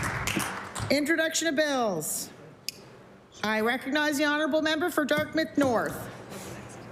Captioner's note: applause